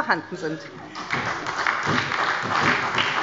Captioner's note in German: Beifall bei der SPD